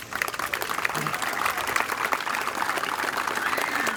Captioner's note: applause